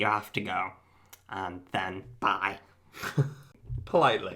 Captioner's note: laughs